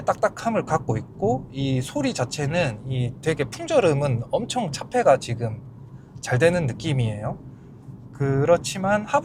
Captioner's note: driving noise